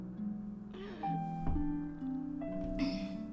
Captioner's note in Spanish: gruñidos